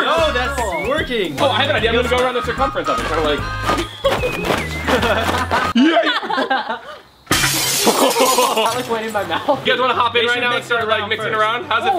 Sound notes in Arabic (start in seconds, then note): 5.0 يضحك; 7.2 زجاج يتكسر; 7.9 الجميع يضحك